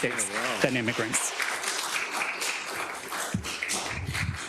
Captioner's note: attendees applauding